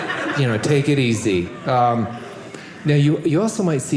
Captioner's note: audience laughing